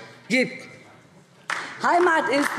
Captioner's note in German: Beifall DIE LINKE